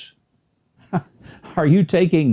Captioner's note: laughing